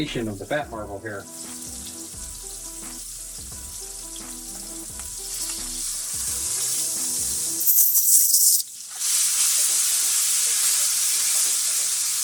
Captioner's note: sizzling